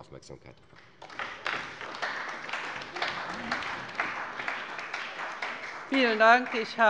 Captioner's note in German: Beifall bei der CDU und dem BÜNDNIS 90/DIE GRÜNEN